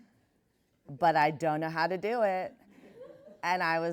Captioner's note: laughs